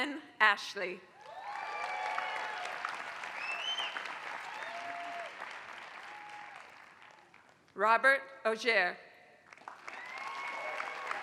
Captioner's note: applause; applause